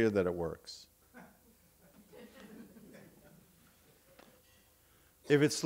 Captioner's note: audience laughing